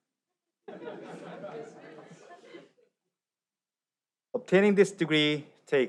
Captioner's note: audience laughs